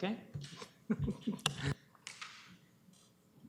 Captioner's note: chuckles